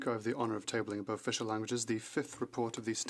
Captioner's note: speaking French